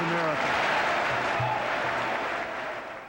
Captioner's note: applause